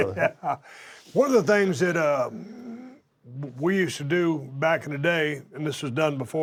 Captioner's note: laugh